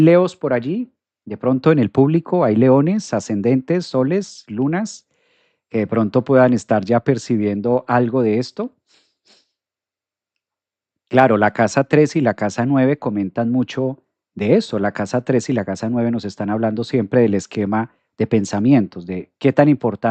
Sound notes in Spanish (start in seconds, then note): 8.9 resoplido